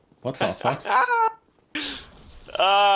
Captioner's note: laughing